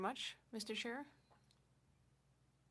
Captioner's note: speaking French